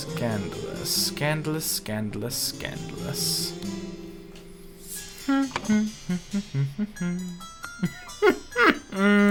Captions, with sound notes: Scandalous. Scandalous, scandalous, scandalous. [humming]